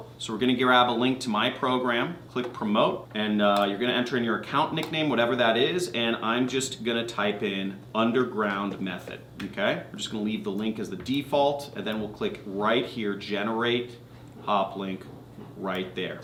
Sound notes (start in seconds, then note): none